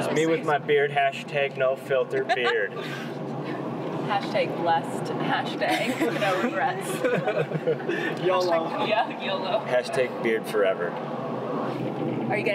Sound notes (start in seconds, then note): 6.8 laughing